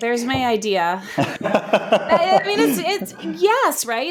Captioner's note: chuckles